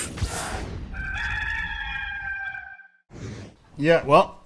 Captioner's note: rooster crows